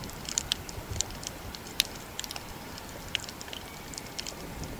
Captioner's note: clicking reef sounds